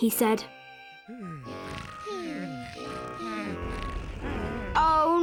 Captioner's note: snoring